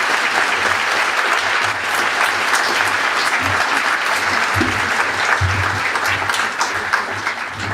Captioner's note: applause